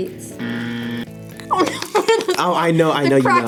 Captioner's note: buzzer; laughs